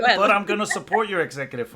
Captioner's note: laughs